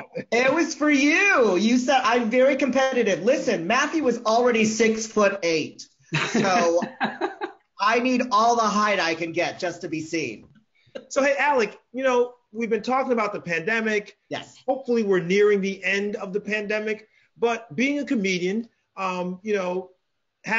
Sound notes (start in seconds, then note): 6.1 laughs